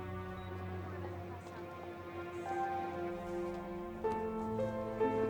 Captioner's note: students chattering; tense piano music